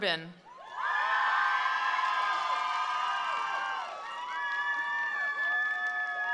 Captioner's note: attendees cheering; attendees applauding